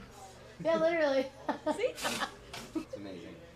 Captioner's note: laughing